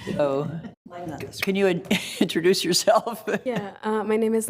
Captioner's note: laughs; laughs